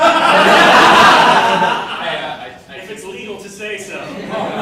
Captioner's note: audience laughing